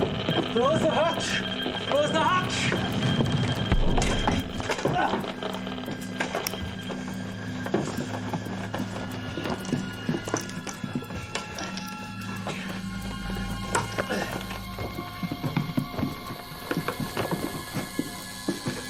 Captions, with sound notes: Close the hatch. Close the hatch. (device crackling rapidly)